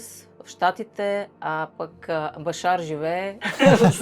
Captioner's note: laughter